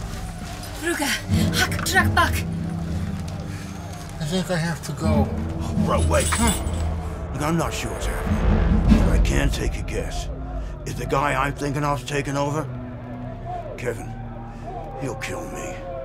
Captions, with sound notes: *Kimberly speaks urgent gibberish* I think I have to go Bro, wait... I'm not sure what's happening, but I can take a guess... If the guy I'm thinking of is taking over... Kevin.... he'll kill me